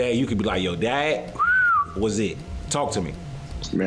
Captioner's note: whistle noise